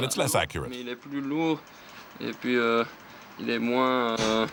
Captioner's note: French spoken audio